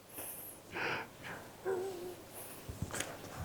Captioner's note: laughs